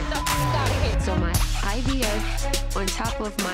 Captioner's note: beep